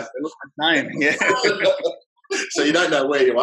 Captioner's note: laughs